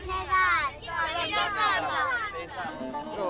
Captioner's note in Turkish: Çocuklar konuşuyor